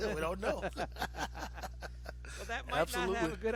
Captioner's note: both laughing